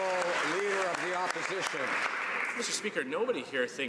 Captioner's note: some Applause